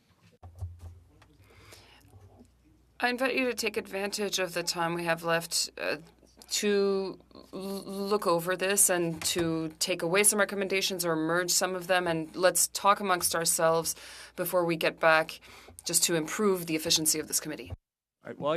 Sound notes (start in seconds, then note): 5.7 speaking French